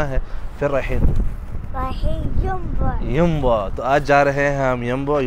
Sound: Arabic

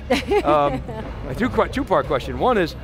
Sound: laughs

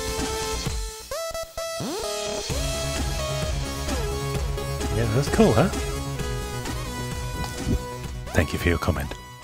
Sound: loud lick

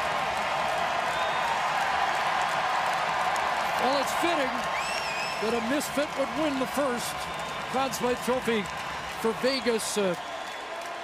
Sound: cheering; cheering and Applause; cheering

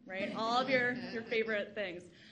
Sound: audience laughs

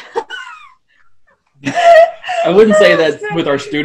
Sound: laughs

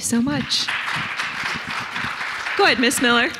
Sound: audience applauding

